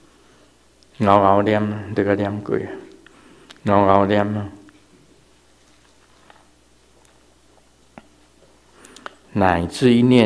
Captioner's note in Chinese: 台語